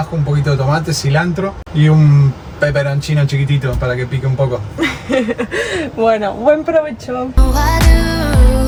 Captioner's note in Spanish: risas